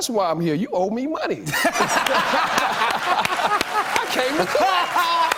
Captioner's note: laughter and applause